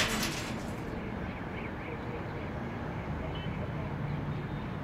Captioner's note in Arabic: أصوات طقطقة الباب المكسور; ضوضاء المدينة المحيطة